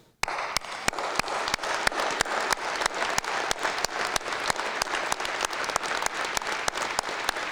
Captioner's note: applause